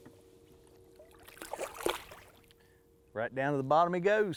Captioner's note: splashing